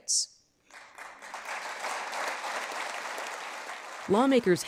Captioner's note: lawmakers applauding